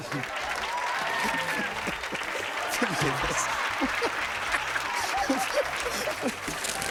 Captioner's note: cheers and applause; laughter